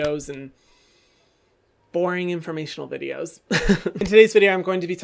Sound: laughs

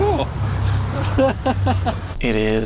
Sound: laughing; laughs

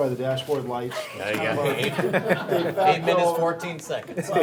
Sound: laughing

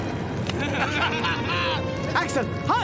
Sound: laughing

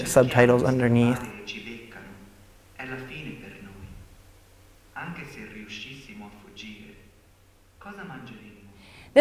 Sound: speaking foreign language

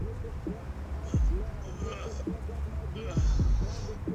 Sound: Hayden grunts

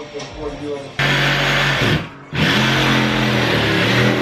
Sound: sawing

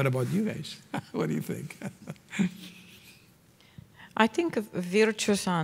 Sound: chuckling

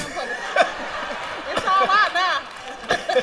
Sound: laughter

